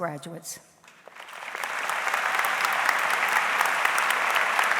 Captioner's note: audience applauds